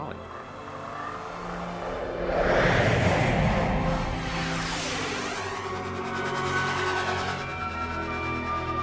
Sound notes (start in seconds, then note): 1.8 whooshing